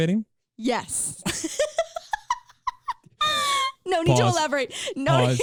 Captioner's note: laughing